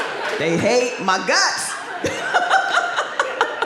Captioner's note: laughs